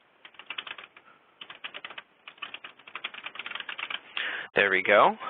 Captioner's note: typing